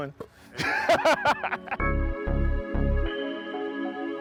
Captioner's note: laughter